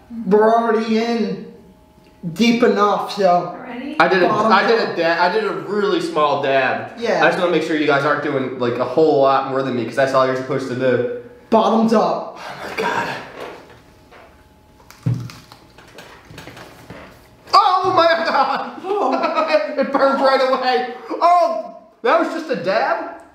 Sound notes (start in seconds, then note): 14.7 chicken drumstick crunches; 18.0 laughs